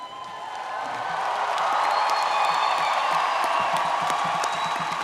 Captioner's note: audience cheering and clapping